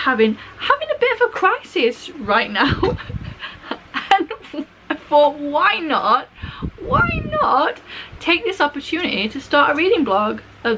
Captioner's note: laughing